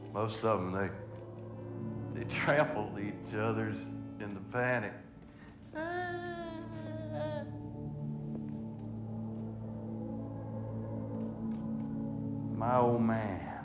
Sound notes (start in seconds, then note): 5.7 melodramatic wailing; 10.1 somber music